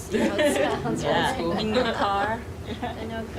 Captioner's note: audience laughing